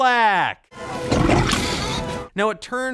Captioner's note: gurgles